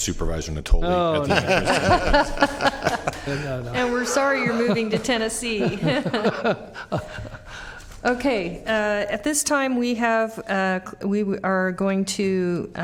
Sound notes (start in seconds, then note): 4.3 laughter